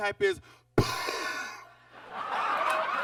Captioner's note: Bob exhales quickly; audience laughs